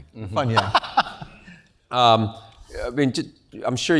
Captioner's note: laugh